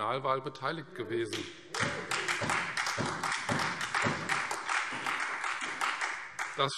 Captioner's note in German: Beifall Freie Demokraten und SPD